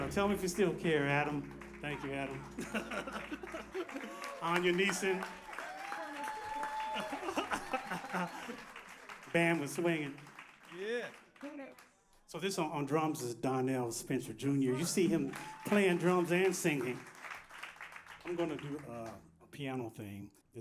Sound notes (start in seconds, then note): 2.5 laughter; 5.2 applause; 14.8 applause